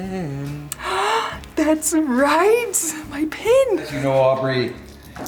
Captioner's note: gasps